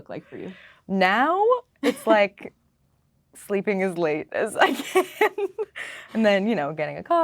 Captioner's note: laughing